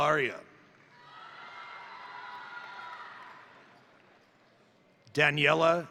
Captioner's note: crowd applauding; crowd cheering